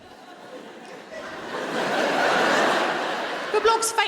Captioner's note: audience laughing